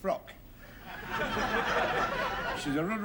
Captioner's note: laughter